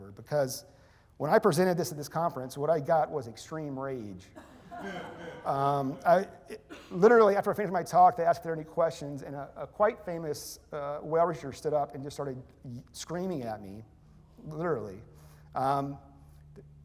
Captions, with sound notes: Because when I presented this at this conference, what I got was extreme rage. [laughter] Literally, after I finished my talk, they asked if there are any questions. And a quite famous whale researcher stood up and just started screaming at me, literally.